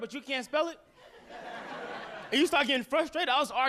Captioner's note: audience laughing